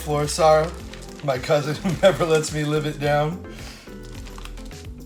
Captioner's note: chuckles